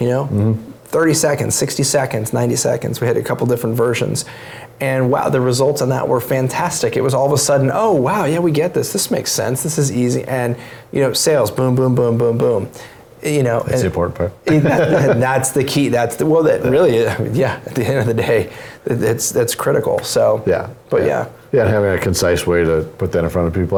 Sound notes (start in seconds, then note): 14.5 laugh